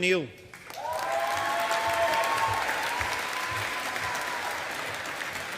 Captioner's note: audience applauding